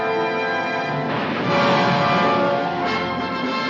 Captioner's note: bomb exploding; triumphant music